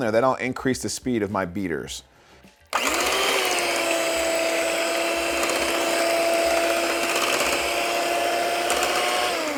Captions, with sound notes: then don't increase the speed of my beaters. (egg beater spinning)